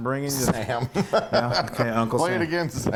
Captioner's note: laugh